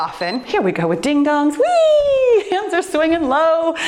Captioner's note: timer beeps